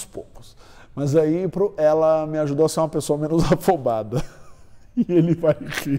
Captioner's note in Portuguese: risos